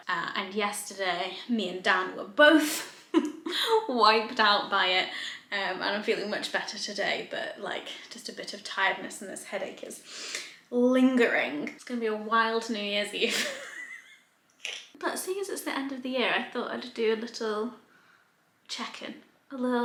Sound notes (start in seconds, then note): 13.3 laughing quietly